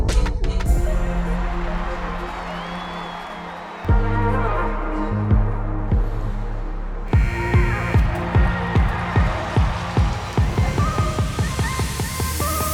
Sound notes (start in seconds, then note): 0.8 crowd cheers